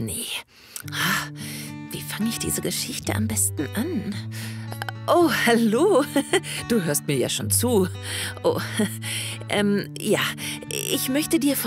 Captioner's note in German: Lachen